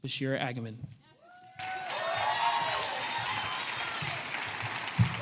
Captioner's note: applause